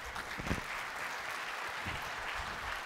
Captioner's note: applause